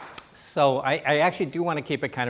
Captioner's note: applause